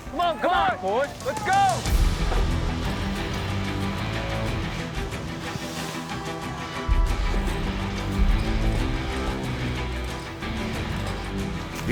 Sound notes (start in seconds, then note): 0.0 cowboys shout encouragement; 1.9 hay bales thud down